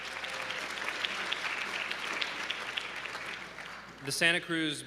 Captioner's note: applause